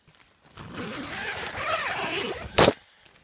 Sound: zip noise

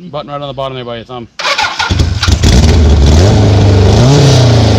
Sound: engine fires up

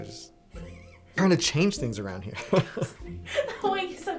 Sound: laughing

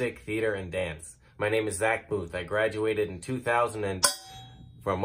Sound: bangs on sauce pan

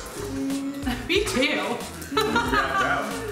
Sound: laughs

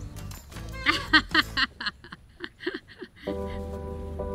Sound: laughter

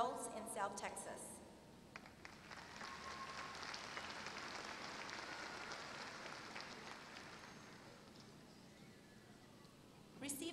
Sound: applause

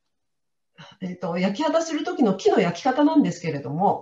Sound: non-english speech

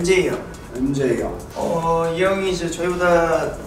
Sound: speaking Korean

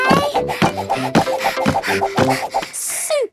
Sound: panting

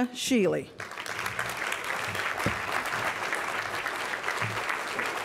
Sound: applause

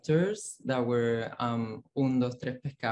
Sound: foreign language

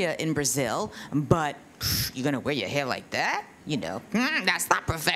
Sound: scoffs

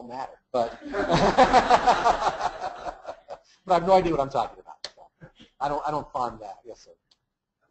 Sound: laugh

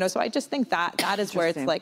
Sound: coughs

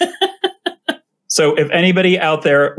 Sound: laughs

